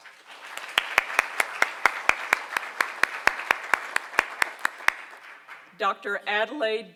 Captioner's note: applause